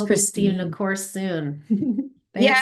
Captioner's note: chuckles